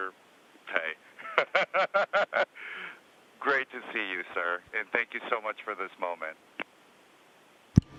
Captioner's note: laughing